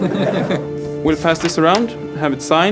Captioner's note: everyone chuckles